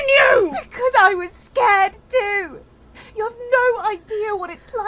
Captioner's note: yelling; shouting